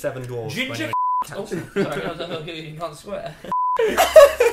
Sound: beep

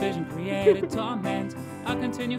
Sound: laughs

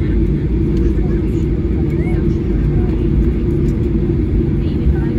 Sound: chatter

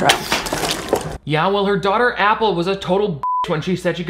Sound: beep

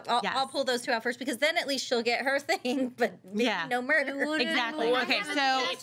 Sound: laughs

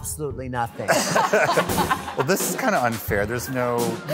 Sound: all laughing

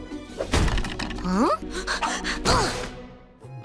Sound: panting, groaning

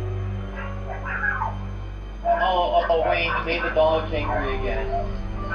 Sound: dogs barking in background

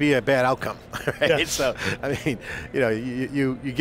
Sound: laughs

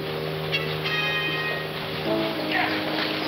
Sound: shouting

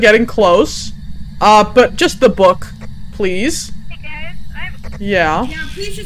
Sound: over Radio

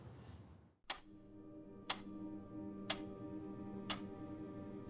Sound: clock ticking

